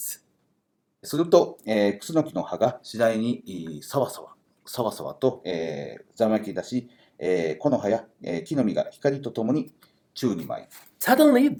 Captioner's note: speaking Japanese